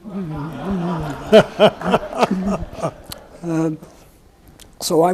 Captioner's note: audience laughs